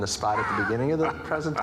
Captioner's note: laughs